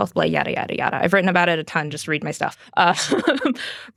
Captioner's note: laughs